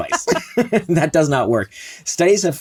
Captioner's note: laughs